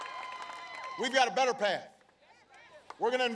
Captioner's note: applause